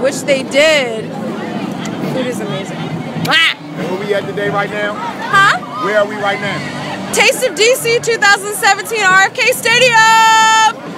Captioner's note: kisses blown